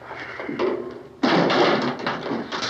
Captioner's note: none